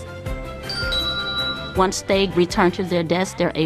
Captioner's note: timer dings